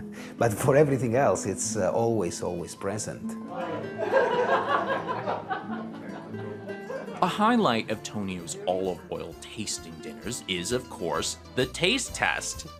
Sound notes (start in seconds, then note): 3.6 laughter